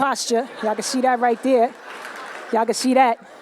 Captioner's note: laughter